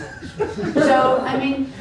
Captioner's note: giggles